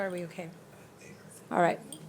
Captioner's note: speaking faintly